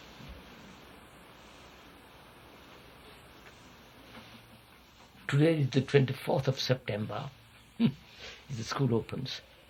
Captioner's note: laughs